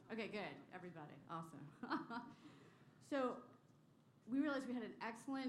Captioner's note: laughter